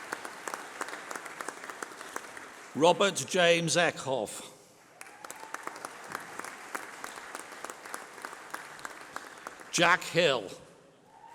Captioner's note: applause